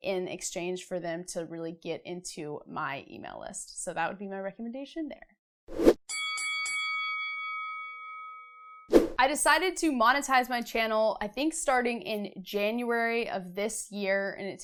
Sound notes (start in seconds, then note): 6.1 bell ringing